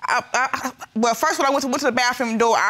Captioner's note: stutters